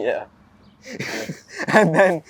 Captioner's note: Saeed chuckles